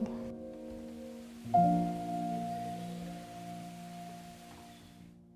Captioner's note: water splashing